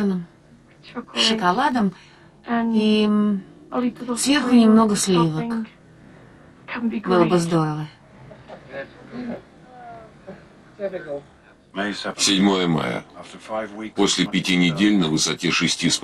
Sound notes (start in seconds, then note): 8.1 laughing